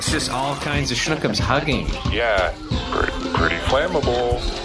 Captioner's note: quietly